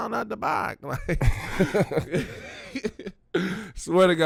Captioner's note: laughing